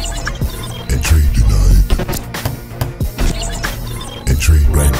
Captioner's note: glitchy music; computerized Voice